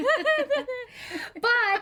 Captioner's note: both laughing